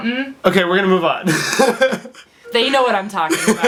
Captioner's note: laughs